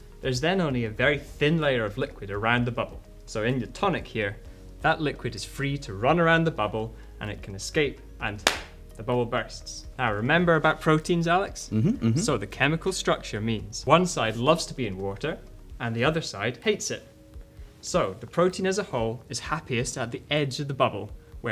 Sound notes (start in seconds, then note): 8.4 claps hands